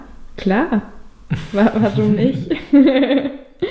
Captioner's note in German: Lachen